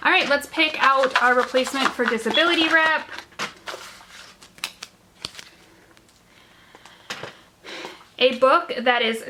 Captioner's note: shuffling noise